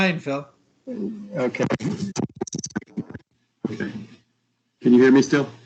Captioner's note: audio static